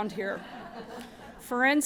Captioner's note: laughter